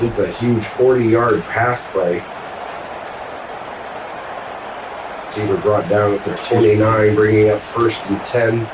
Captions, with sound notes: It's a huge 40 yard pass play. [Crowd Noises] Chamber brought down with their 29 bringing up first and 10.